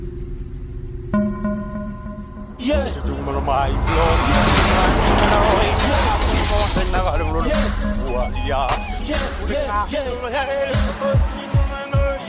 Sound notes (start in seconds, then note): 1.3 upbeat music; 4.4 truck crashes; 8.4 singing in foreign language